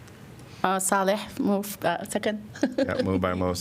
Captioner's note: laughter